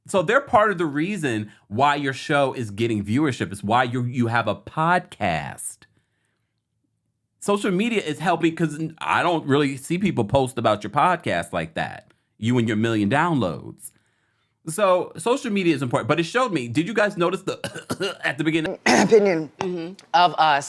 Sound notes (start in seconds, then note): 17.4 coughs; 17.6 clears throat